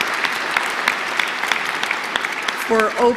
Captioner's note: applause